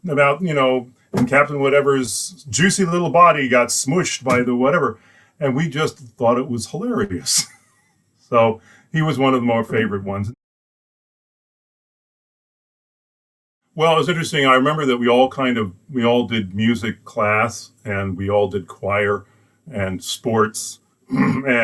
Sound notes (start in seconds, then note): 7.2 laughs